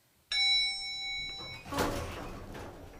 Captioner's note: ding